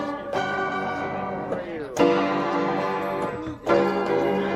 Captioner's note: people chattering; upbeat saloon music continues